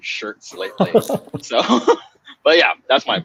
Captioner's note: laughing